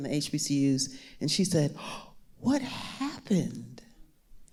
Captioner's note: gasps